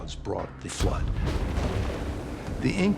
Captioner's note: thunder